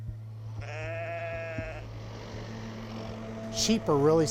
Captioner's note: sheep bleats